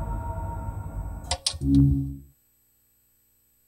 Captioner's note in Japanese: ブラウン管の切れる音：ブウゥン; スイッチの切れる音：カチッ